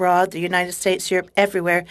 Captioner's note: speaking French